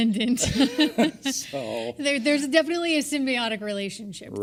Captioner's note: laugh